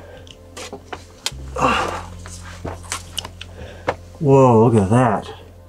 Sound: groans

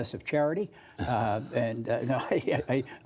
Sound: laughter

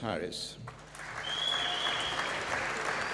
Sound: applause

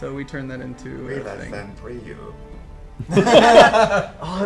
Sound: robot voice

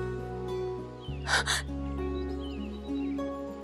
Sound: sobbing

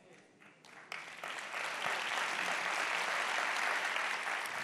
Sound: audience applauds

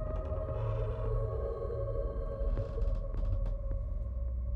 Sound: door creaking

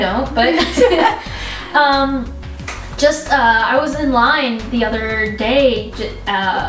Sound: laughs

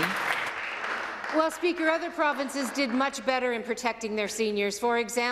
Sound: some Applause

